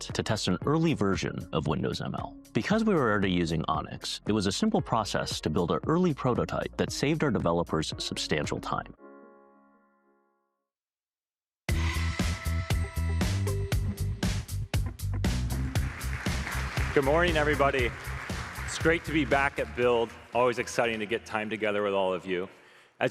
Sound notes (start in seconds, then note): 15.4 applause